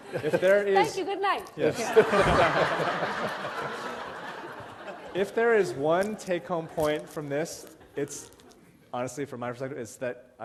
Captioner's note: laughter